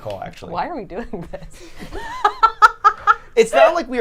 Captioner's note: laughing